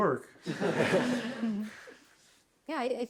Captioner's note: laughter